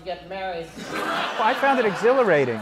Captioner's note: laughter